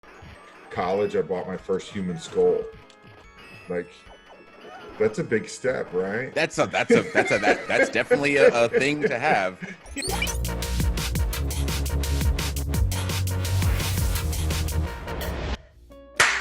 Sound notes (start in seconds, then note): 6.6 laugh